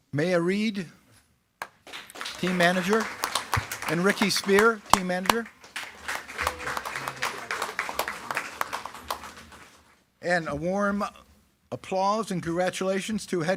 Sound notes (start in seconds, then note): 3.4 attendees clapping; 6.3 attendees clapping and cheering